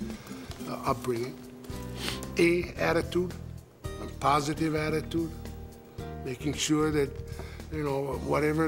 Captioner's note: sniff